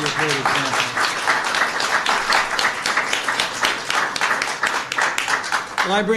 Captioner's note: applause